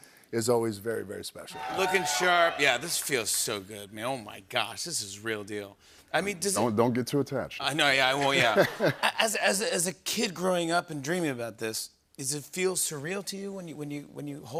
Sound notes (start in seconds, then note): 8.2 laughter